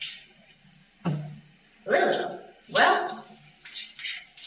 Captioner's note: spits